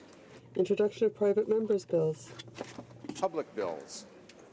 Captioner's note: speaking French